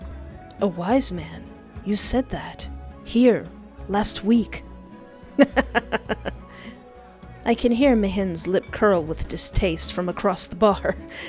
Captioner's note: laughter